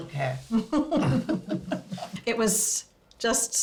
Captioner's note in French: ils rient